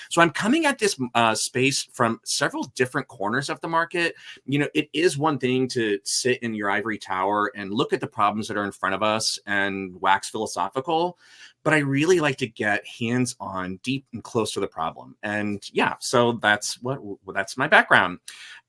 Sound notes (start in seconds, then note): none